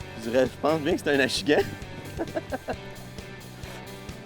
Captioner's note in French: rire